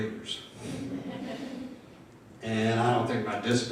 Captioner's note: audience laughing